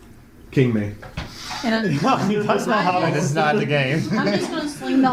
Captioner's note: laughs